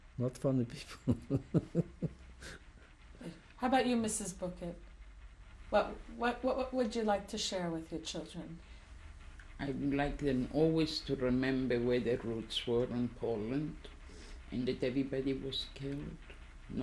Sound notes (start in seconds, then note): 0.8 laughs